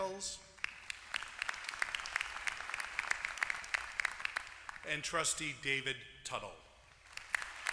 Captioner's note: applause; applause